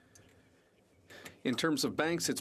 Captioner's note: speaking FRENCH